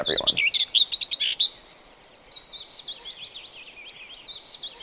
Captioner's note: bird chirping